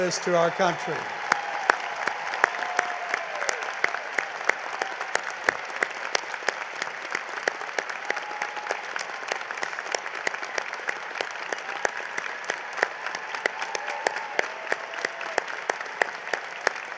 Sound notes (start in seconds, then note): 4.3 cheering and applause